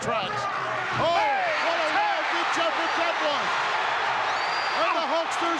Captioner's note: gorilla speaks faintly